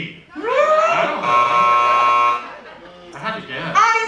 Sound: buzzer sounding

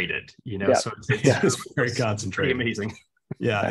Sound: chuckles

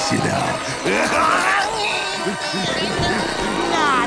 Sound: grunting

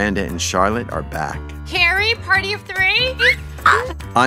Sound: carrie squeals

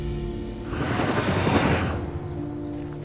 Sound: transition sound

